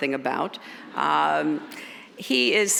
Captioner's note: audience chuckles